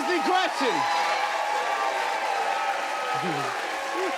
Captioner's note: cheers and applause